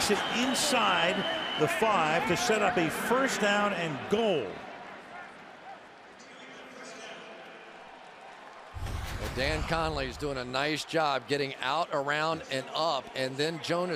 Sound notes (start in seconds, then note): 6.8 pa announcement